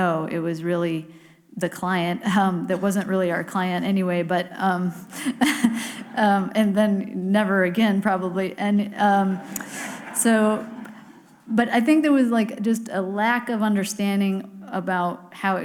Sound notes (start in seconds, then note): 5.2 chuckles; 9.2 audience laughs